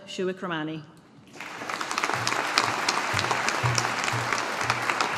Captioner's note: audience applauding